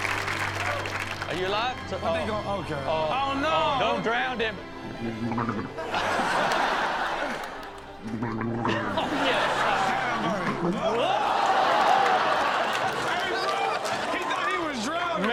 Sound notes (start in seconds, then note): 5.5 audience laughs; 5.5 man gargles; 8.7 audience laughs; 11.3 all groan